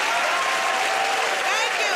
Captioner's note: cheers and applause